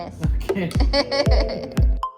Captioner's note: laughing; chuckles